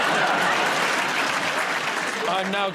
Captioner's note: laughter; applause